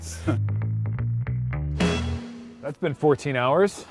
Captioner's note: laughing